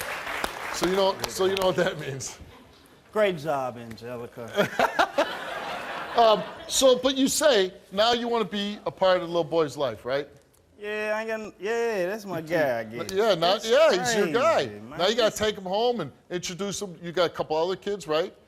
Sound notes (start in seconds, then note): 4.5 laughing